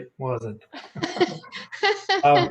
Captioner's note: laughs